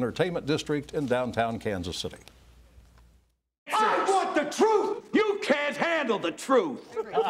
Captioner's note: laughter